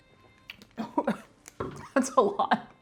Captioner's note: coughing